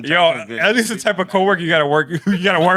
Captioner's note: speaking Spanish